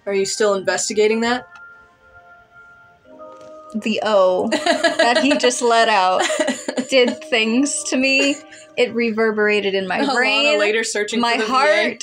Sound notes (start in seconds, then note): 4.5 laugh; 8.2 giggle